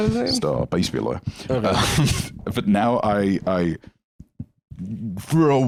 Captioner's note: laughs